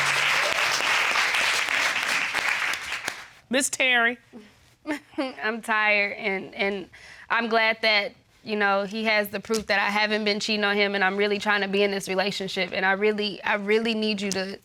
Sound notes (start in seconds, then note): 4.7 chuckles